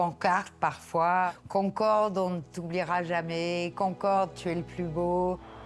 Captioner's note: speaking French